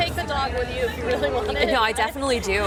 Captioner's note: laughs